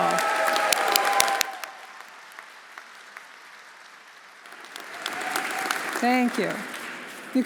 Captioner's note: audience cheering; audience applauding